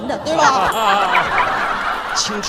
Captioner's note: ding-ding-ding